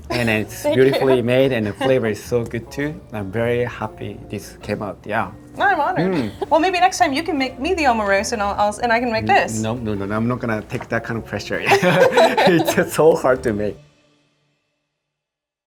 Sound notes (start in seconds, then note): 11.6 both laughing